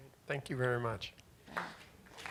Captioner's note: applause